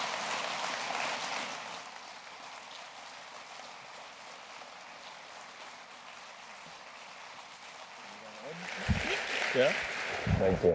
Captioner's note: applause